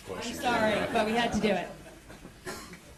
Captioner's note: laughter